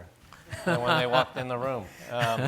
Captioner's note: laughing